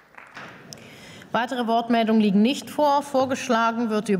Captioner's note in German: Beifall